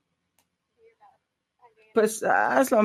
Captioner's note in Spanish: a través de intérprete